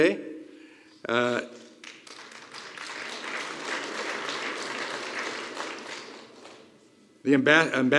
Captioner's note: applause